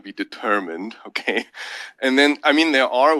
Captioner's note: laugh